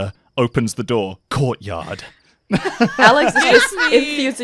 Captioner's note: laughter